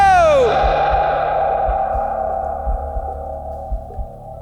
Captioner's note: voice echoing